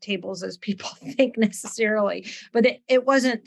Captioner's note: laughs